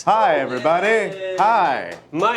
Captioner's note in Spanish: aclamaciones